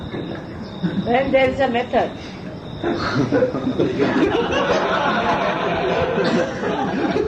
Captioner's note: laughter